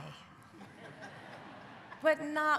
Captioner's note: audience laughing